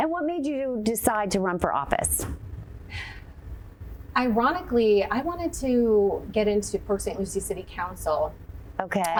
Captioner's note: none